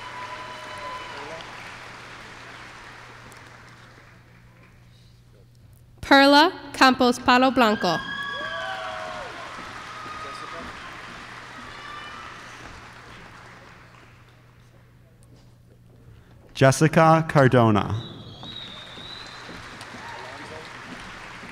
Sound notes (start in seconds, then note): 0.0 applause; 8.1 applause; 18.5 applause